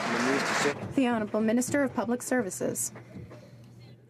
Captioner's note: some Applause